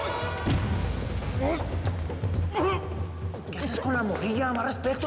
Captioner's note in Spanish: Ruido de pasos